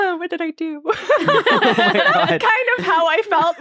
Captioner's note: all laughing